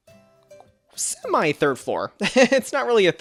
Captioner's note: laughs